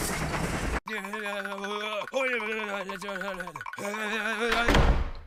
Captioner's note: frantic running sounds